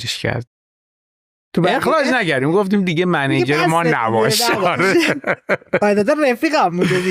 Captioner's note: laughs